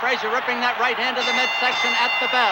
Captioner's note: bell dinging